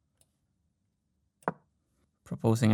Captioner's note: clack